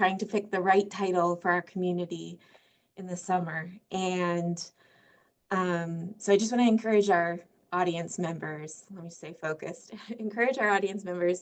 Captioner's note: laughing